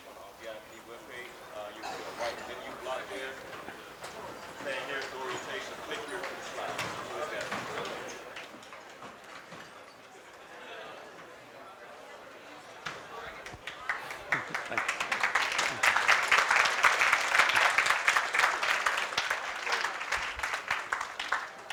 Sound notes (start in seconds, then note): 5.0 crowd chatter; 13.3 applause